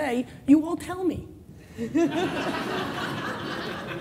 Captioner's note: laughing